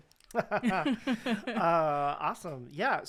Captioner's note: both laughing